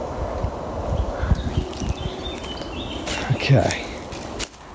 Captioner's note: birds chirping